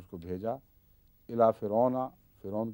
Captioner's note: Arabic